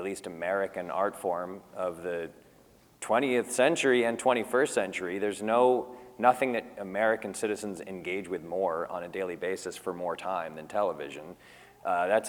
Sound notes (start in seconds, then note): none